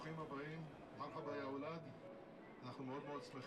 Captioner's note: Arabic